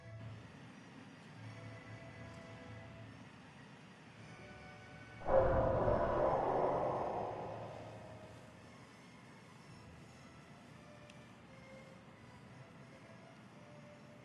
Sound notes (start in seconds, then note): 5.2 distant explosion